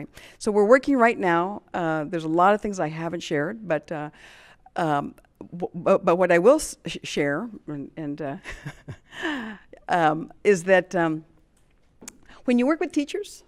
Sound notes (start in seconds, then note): 8.4 chuckles